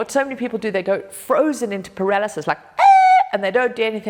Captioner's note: screams